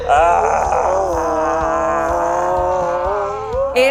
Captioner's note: groans